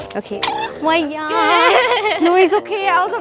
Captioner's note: scared Tone